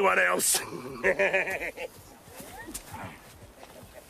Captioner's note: laughs